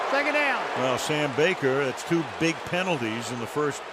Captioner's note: booing